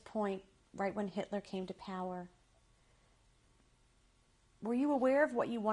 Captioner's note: pauses for 3 seconds